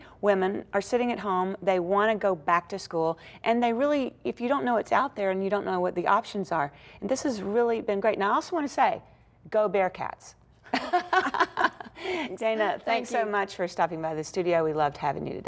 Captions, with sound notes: WOMEN ARE SITTING AT HOME, THEY WANT TO GO BACK TO SCHOOL, AND THEY REALLY IF YOU DON'T KNOW IT'S OUT THERE AND YOU DON'T KNOW WHAT THE OPTIONS ARE. THIS IS REALLY BEEN GREAT. NOW, I ALSO WANT TO SAY, GO BEAR CATS. (LAUGHS) DANA, THANKS SO MUCH FOR STOPPING BY THIS STUDIO.